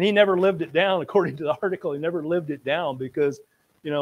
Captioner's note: laughs